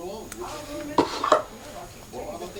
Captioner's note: sighs